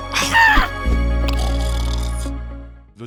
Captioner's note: betrayed scream; snore